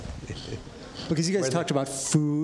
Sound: audience laughs

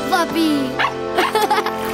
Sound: barking, giggling

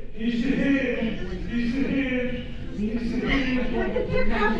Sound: voices murmuring

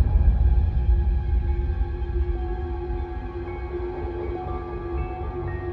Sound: whispering

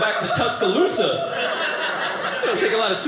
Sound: audience laughing

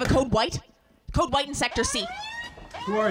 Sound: alarm

